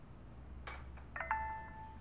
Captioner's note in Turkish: Mesaj Sesi